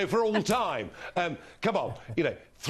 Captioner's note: laughter